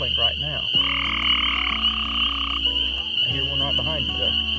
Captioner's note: frog chirping